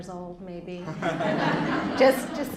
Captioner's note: laughter